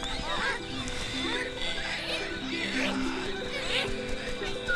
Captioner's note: squawking and chirping intensifies